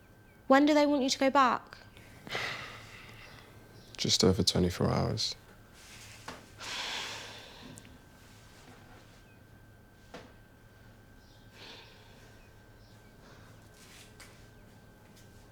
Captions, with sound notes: When do they want you to go back? (Nikolai sighing) - Just over 24 hours. (Crystal sighing)